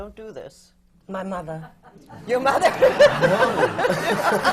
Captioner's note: laughter